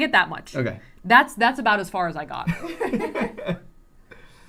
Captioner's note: laughter